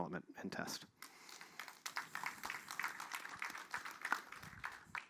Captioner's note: applause